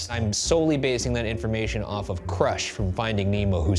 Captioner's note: none